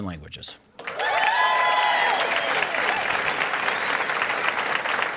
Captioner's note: cheering and applause